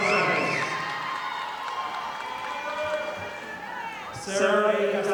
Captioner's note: audience applauding